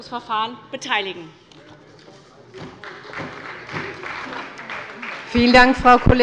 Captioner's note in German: Beifall bei der SPD und bei Abgeordneten der CDU